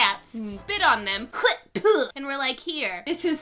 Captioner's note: spits